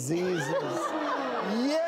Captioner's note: shocked exclaiming